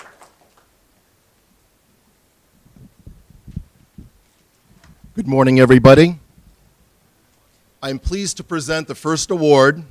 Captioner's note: applause